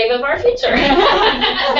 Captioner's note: laugh